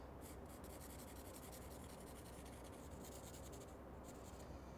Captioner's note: marker rubbing